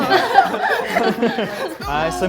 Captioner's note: all laughing